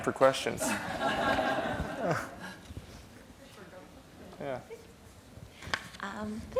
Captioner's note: laughter